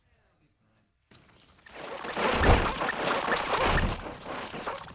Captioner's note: Gloink squeaking rapidly